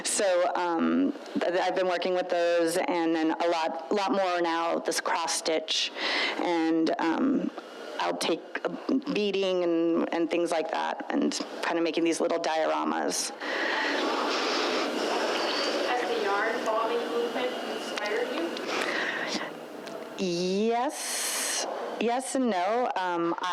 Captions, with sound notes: So I've been working with those, and then a lot more now, this cross-stitch. And I'll take beading, and things like that, and kind of making these little dioramas. (woman speaks faintly) - Yes, yes and no.